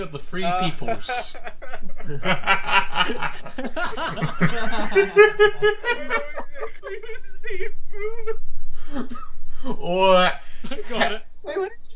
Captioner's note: laughter